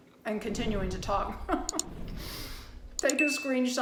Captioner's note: laughs